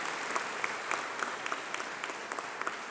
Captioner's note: applause